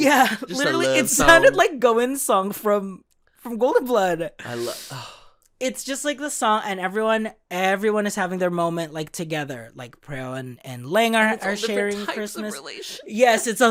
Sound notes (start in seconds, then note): 4.5 sighs